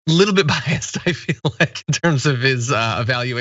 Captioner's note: laugh